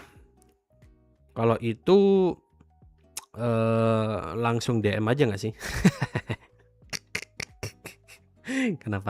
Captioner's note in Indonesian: tertawa